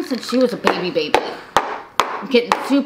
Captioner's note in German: Tasse klopft auf den Tisch